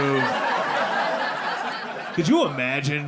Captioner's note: audience laughing